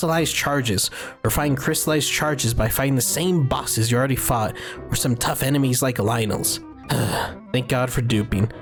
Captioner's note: sigh